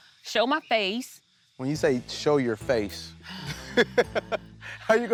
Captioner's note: laughs